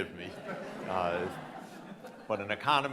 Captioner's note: audience laughing